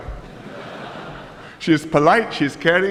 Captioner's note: laughter